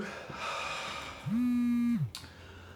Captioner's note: Yogi's Phone Vibrates Again